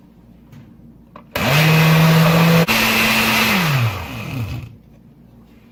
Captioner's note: blender noises